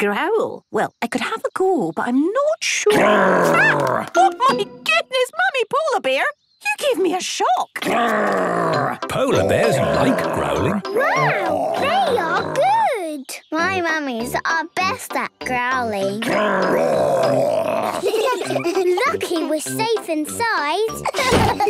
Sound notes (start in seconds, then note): 2.9 loud growl; 7.8 loud growls; 16.2 growls; 17.2 giggling